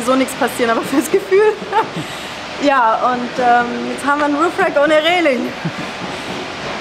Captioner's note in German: Lachen